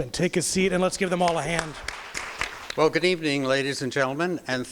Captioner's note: crowd applause